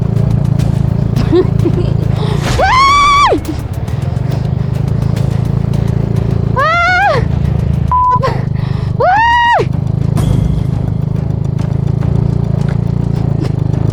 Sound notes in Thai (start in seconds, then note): 2.5 ยอุทาน